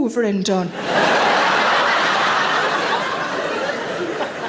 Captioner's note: audience laughs